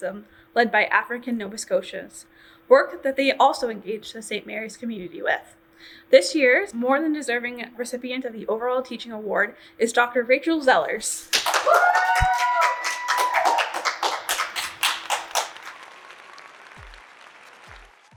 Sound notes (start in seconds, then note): 9.8 audience cheers